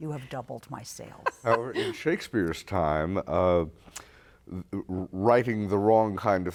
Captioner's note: laughter